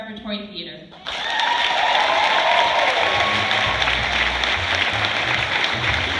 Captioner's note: cheers, applause